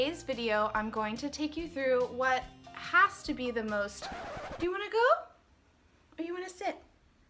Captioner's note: turntable scratch